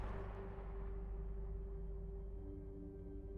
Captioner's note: gunshot